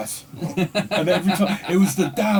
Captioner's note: laughter